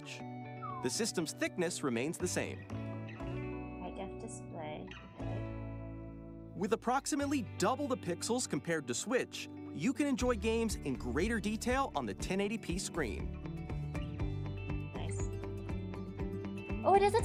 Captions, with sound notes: *whistles* Bigger display...